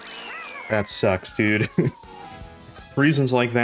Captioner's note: laughs